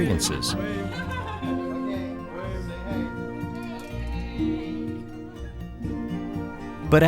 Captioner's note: chatter